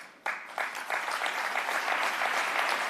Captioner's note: applause